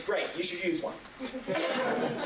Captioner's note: laughter